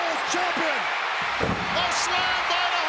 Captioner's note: body thuds